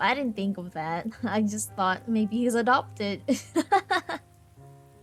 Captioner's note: laughs